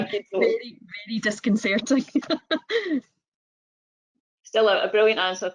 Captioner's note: laughs